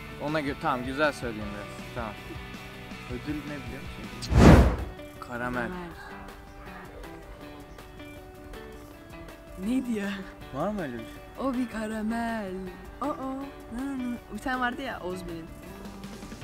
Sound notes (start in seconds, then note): none